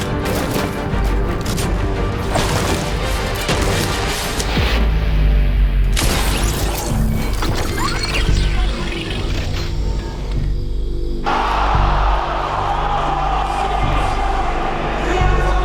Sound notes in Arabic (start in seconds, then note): 3.3 تحطيم مواد; 11.3 تعجب الجمهور